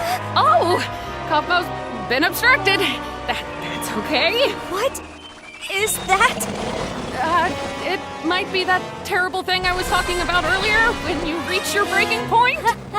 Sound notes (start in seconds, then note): 5.7 Kaufmo growls